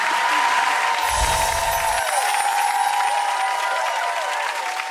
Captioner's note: crowd cheers; twinkling sound